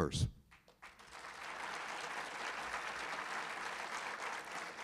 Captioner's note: audience applauding